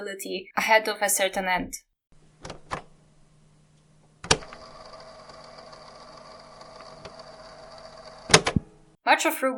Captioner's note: cassette sound